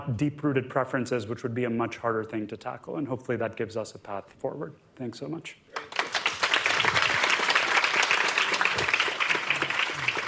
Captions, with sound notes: deep-rooted preferences, which would be a much harder thing to tackle. And hopefully that gives us a path forward. Thanks so much. [APPLAUSE]